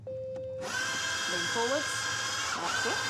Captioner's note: rex whirrs